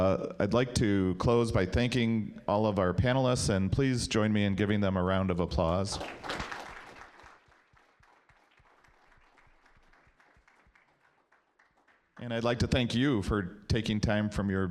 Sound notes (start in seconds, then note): 5.8 applause